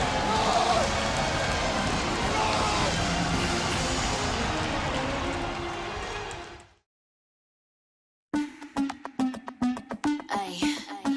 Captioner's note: yelling